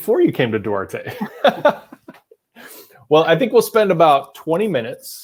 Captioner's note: laughing